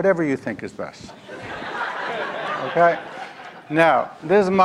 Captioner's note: audience laugh